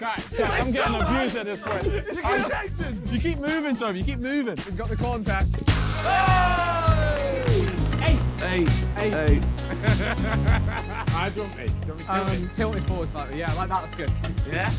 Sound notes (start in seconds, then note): 5.7 men clapping; 9.5 laughs happily